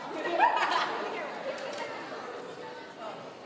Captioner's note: laughing